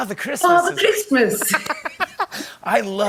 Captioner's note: laughter